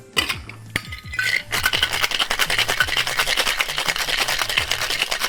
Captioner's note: cocktail bottle shaking